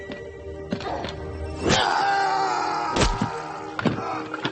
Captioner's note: LaFleur groaning